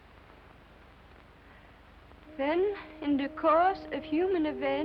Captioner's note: foreign accent